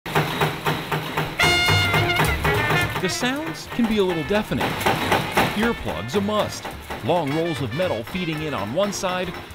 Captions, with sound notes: (machine thuds) (jazz music) The sounds can be a little deafening, earplugs, a must, long rolls of metal feeding in on one side,